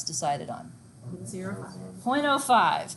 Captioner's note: students responding